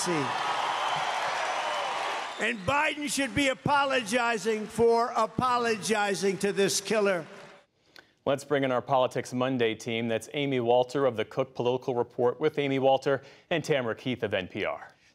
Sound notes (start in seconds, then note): 2.3 cheering and applause